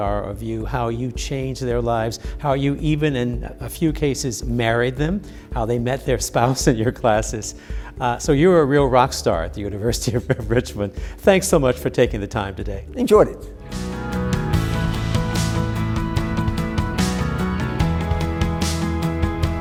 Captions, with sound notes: are of you. How you change their lives, how you even in a few cases, married them, how they met their spouse in your classes. So you are a real rock star at the University of Richmond. [chuckles] Thanks so much for taking the time today. Enjoyed it.